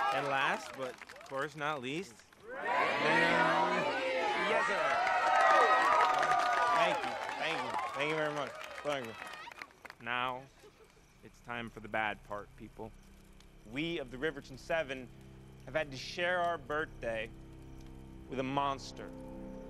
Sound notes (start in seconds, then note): 5.3 all cheering